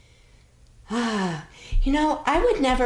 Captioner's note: sighs